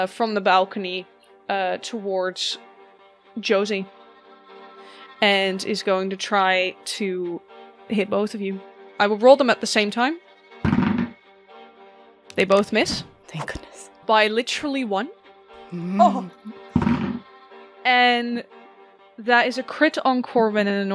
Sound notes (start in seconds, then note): 11.2 dice thunks; 17.0 dice thunks